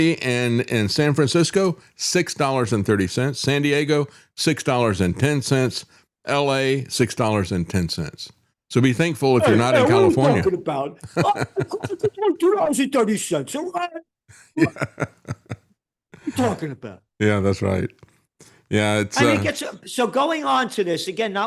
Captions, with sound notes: And in San Francisco, $6.30. San Diego, $6.10. LA, $6.10. So be thankful if you're not in California. What are you talking about? (Laughing) $2.30 a gallon? What are you talking about? Yeah, that's right. Yeah, it's-- So going on to this, again,